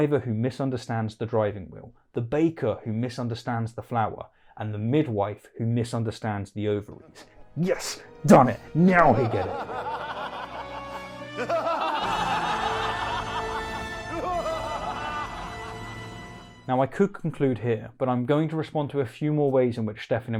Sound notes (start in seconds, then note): 13.2 Dr. Evil laugh